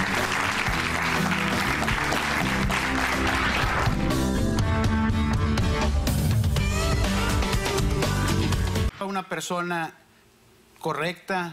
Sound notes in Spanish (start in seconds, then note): 4.0 aplausos